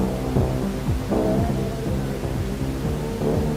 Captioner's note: volume changes irregularly